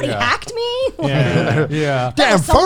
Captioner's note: group agreeing